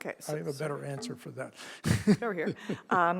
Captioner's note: chuckles